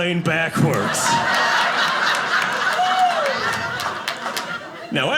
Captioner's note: audience laughing